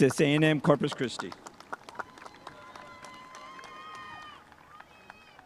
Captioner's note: spectators applauding